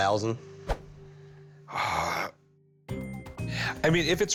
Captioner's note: exhales